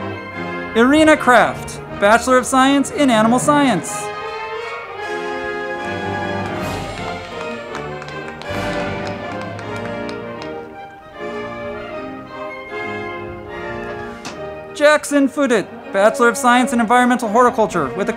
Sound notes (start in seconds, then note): 4.7 band music; 5.8 crowd clapping